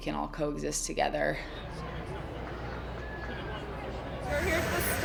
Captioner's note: start commotion and applauding